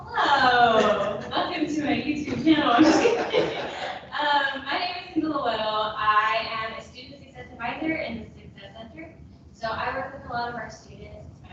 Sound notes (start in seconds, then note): 2.4 people laughing